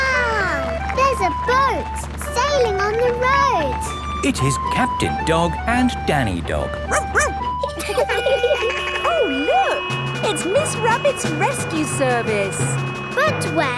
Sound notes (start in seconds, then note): 6.8 barks; 8.0 laughing; 8.0 sirens sounding